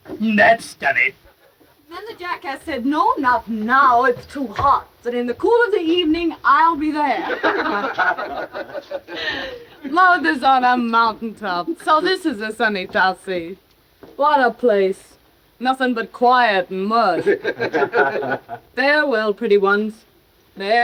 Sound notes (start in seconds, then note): 7.0 all laughing; 17.1 all laughing